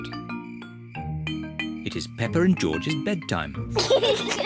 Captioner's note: both giggle